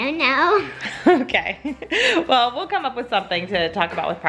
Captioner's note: laughs